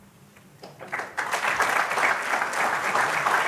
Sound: applause

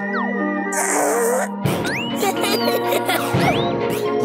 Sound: laughter

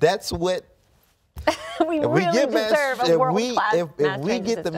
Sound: laughs

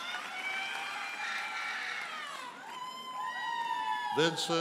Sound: audience cheers and applauds

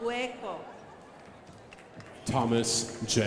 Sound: crowd applauding

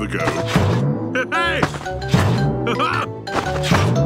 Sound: laughs

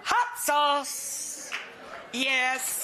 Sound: audience applauds

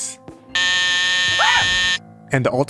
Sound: scream

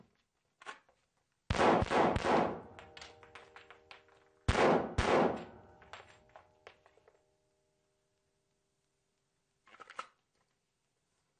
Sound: gunshots

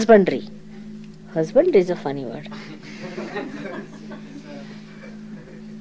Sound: laughter

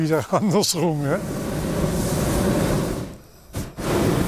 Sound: droning, hissing

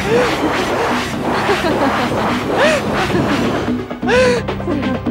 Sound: laughs

